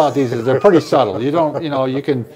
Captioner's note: laughing